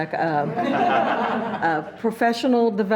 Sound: laughs

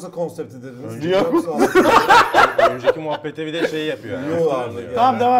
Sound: laughs continues

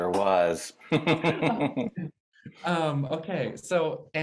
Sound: chuckles

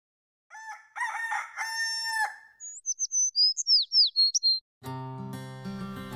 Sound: cockerel/rooster crowing

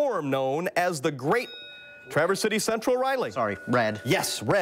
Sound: bell rings

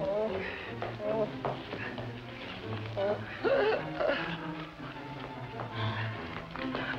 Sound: moaning

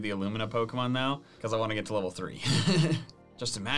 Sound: laughs

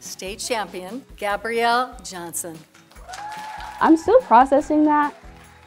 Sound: applause & cheers

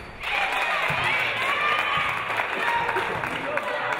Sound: audience cheering

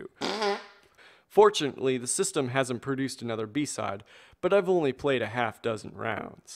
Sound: fart noise

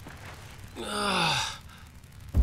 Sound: groaning

